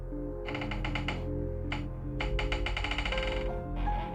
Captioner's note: light, mysterious music; door creaking